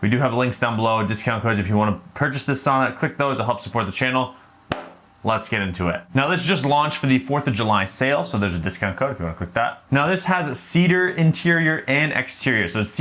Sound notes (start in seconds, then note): 4.7 hands clapping